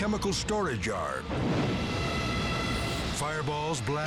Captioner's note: explodes